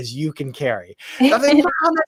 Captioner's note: laughs